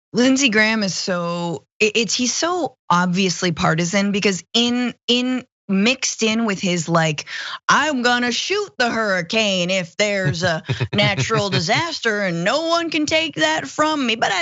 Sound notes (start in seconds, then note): 10.2 laugh